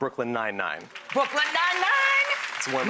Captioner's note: audience clapping